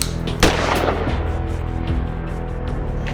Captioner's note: clicks, fires